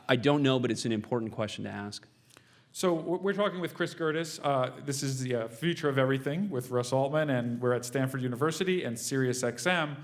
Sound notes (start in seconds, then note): none